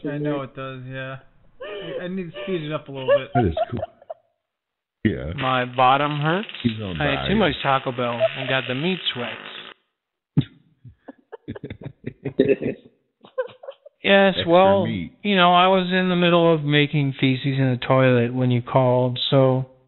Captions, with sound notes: I know it does, yeah. I need to speed it up a little bit. It is cool. Yeah. My bottom hurts. I ate too much Taco Bell and got the meats wet. [LAUGHTER] Yes, well, you know, I was in the middle of making feces in the toilet when you called, so--